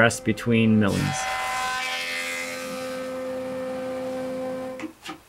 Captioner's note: machine whirs